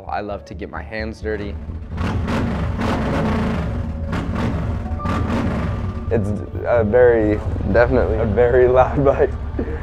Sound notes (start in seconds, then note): 1.5 bike engine revving